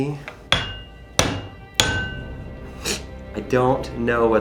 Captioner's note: metal clanging